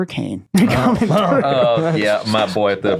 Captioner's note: laughing